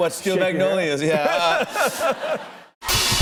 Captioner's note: laughter